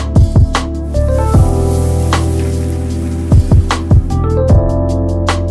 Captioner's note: food sizzling